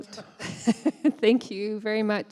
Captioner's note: chuckling